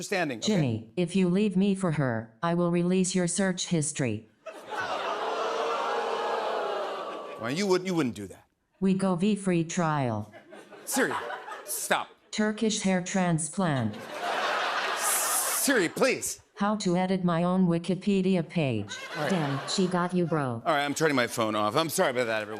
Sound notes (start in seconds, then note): 4.5 audience ohhs; 13.7 laughter